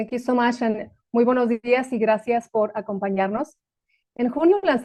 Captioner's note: speaking spanish